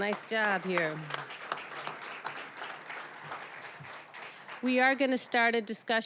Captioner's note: applause